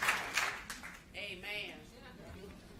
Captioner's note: applause